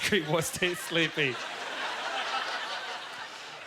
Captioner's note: audience laughter